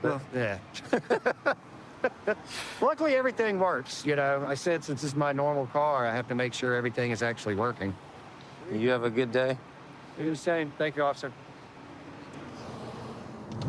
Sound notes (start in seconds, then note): 0.8 laughter